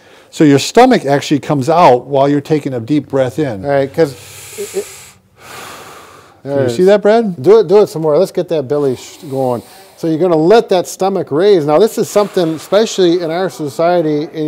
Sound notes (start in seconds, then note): 4.1 inhales and exhales